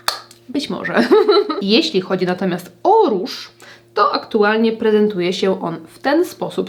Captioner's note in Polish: śmiech